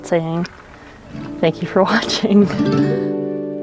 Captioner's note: laughs